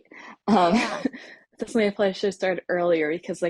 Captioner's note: laughs